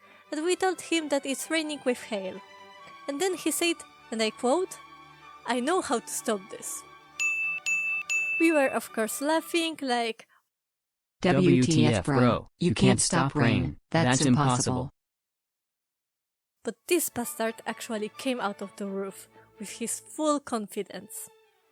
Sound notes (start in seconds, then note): 7.2 ding